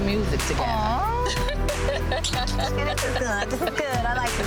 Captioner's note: both laughing